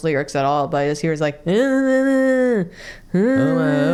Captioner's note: mumbled humming